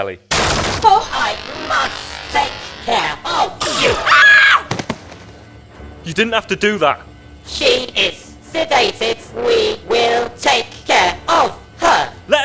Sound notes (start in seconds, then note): 0.4 cupboard door is broken down; 3.6 enceladus screams